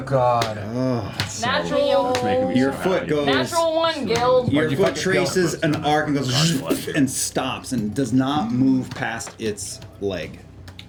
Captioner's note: impact noise